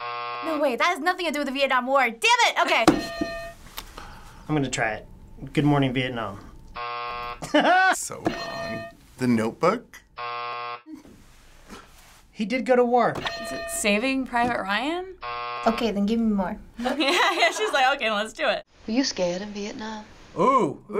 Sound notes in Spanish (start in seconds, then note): 7.4 risas